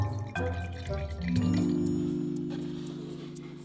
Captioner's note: dairy free milk pouring